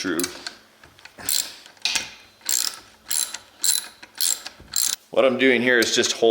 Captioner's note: screw screeching